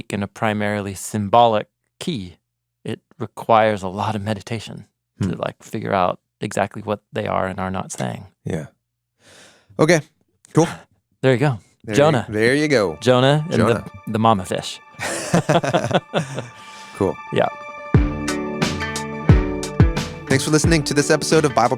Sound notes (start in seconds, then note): 15.0 both chuckle; 18.1 upbeat music